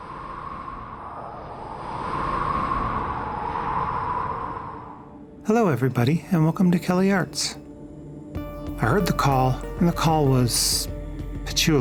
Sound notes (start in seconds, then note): 0.0 more Wind Sounds